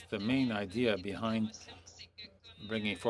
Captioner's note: speaking French